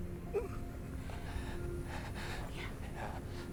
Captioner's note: gentle music; grunts